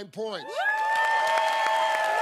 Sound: cheers and applause

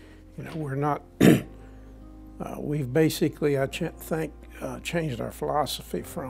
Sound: cough

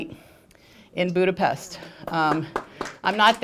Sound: applause

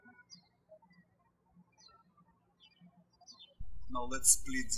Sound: birds chirping

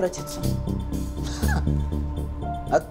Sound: chuckles

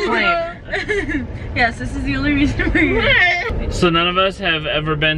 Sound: laughs

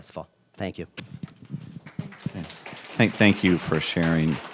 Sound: applause

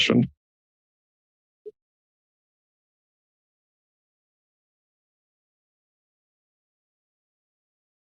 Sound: silence

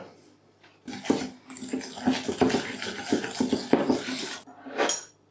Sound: whisk whisk whisk

